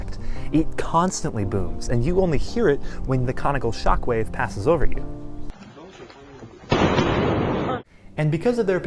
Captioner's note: sonic boom